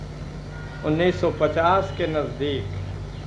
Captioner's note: in Hindi